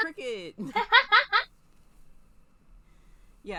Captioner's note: giggles